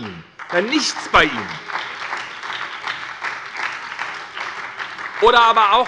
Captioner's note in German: Beifall bei der SPD